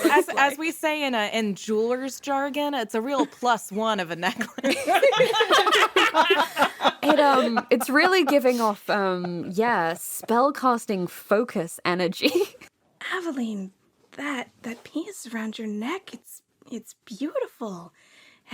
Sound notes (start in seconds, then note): 4.3 laughter